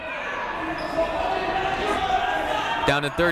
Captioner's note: people shouting in the crowd